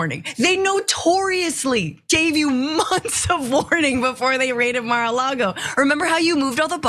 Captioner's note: laugh